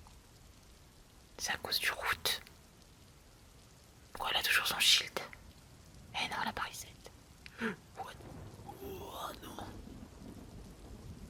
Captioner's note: gasps